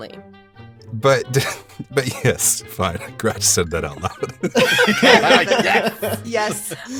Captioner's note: laughs